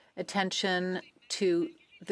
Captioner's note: speaking French